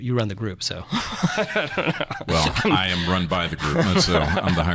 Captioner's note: laughing